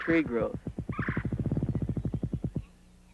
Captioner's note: grouse drumming